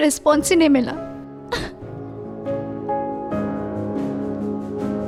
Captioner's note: sad music plays; sobs